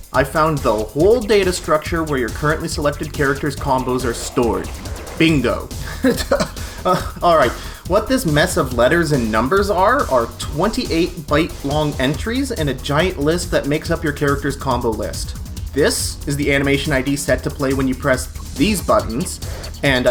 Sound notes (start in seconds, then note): 7.2 laughs